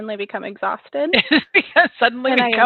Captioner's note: laughs